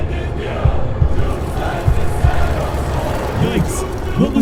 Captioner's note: heart Beating; heart Beating w/ Gore